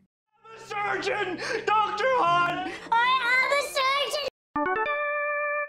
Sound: Audio from ABC's 'The Good Doctor' getting higher in pitch

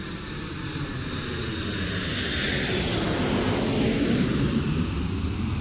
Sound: plane engine roars

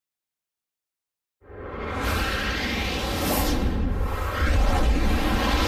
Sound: dramatic sounds

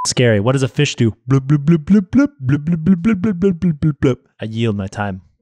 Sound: beep; mimics fish blooping

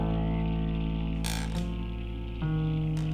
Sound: floorboards creak

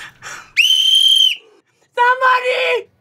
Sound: blows whistle

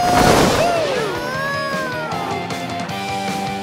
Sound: mooing

